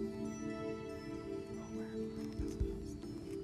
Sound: whispering

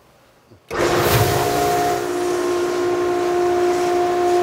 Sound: machine humming

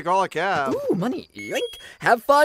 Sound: rupee sound effect

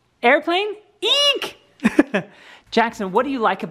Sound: laugh

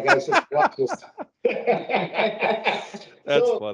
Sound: laughing

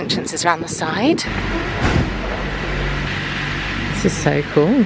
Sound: cars whirring

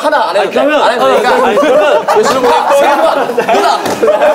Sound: laughing

